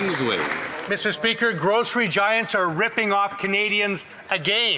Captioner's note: applause